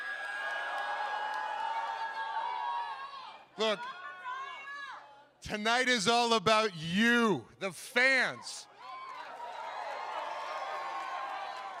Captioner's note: cheering